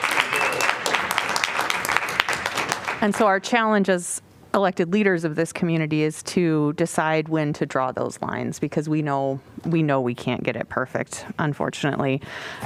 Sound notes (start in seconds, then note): 0.0 applause